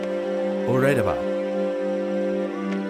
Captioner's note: Jesus speaks gibberish